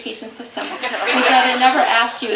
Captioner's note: audience laughter